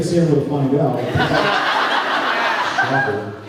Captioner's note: laughs